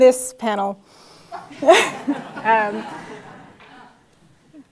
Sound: laugh

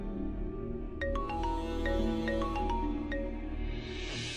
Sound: phone ringing

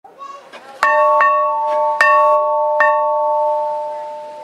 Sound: school bell rings

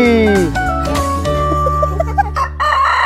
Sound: laugh

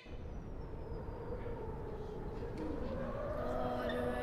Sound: wind blowing

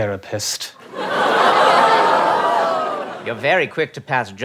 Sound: audience laughs

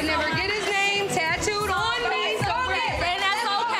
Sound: muffled shouting

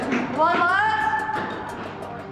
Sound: shouts

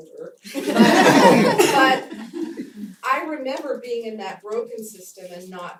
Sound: laugh

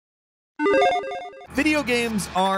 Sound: logo beeping

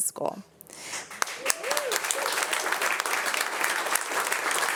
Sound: audience applauding

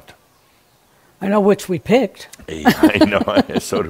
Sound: they chuckle

